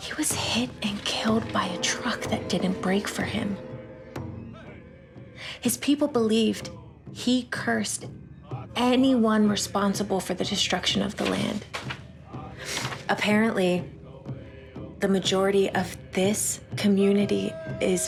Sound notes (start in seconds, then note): 3.7 drums beating; 3.7 voices chant